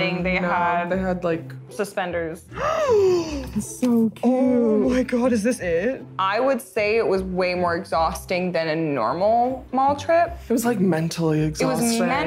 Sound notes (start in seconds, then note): 2.6 gasps